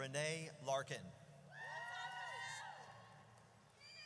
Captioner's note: audience cheers